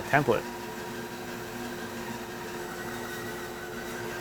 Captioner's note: saw buzzing